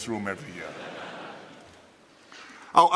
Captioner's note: laughter